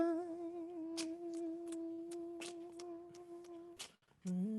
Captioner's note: beatboxing